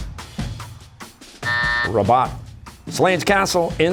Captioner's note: buzzer